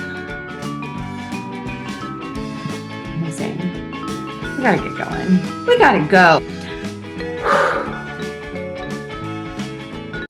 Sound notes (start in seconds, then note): 0.1 upbeat music; 7.4 exhales; 8.5 upbeat music